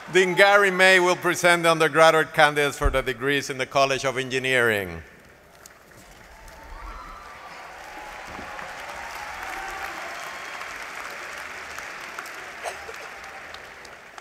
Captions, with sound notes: Then Gary May will present the undergraduate candidates for the degrees in the College of Engineering. [APPLAUSE]